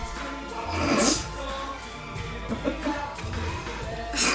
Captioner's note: Sam laughing